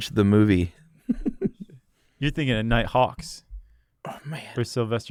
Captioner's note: laughs